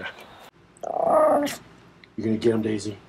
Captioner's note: Daisy growls